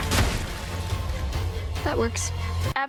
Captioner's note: pumpkins burst; gunfire